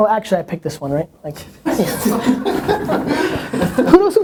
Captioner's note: people laughing